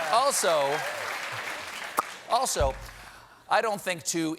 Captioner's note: cheers and applause